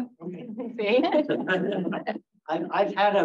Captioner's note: laughs